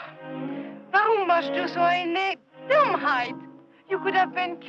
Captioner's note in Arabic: الصوت المنطوق باللغة الألمانية